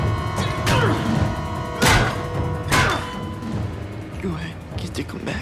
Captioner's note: ghoul scoffs; Paul grunts; head thuds